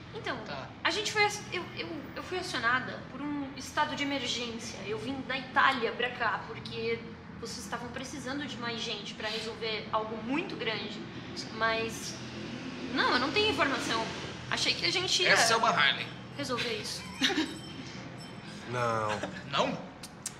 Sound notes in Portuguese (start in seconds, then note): 13.8 moto passando; 17.1 risos